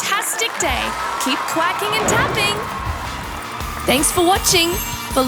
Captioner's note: audience cheers and applauds